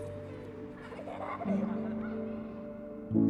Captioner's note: laughing